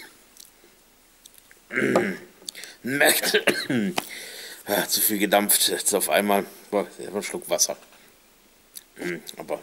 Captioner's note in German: hust